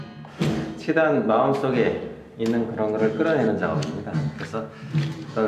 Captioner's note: speaking in Korean